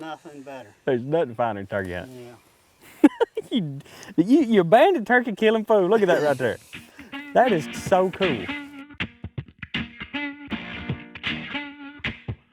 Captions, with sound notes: Nothing better. - There's nothing finer than turkey hunting. (laughing) You banded turkey killing fool. Look at that right there. That is so cool. (upbeat music)